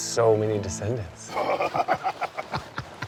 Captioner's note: chuckles